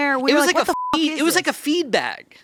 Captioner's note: beeping